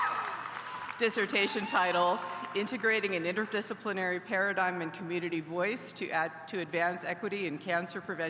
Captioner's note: applause